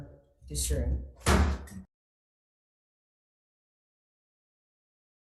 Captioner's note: gavel bangs